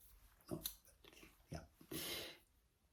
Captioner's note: inhales